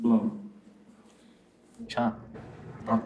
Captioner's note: student speaking Lakota